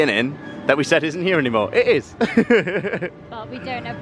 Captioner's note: laughter